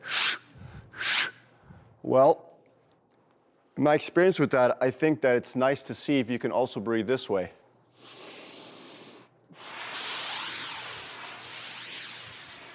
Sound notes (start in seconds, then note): 0.0 exhales rapidly; 7.9 inhales; 9.5 exhales slowly